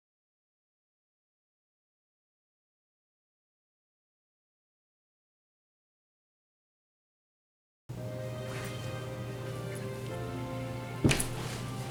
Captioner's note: silence